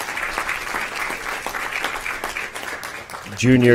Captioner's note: applause